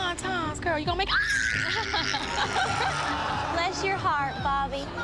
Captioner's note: screams